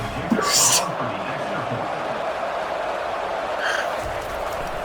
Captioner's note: crowd Noises